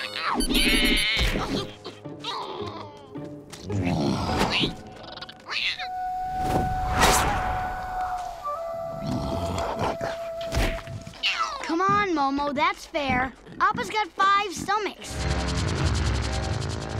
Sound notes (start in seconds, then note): 0.0 chirping; 3.3 grunting, chirping; 9.0 grunting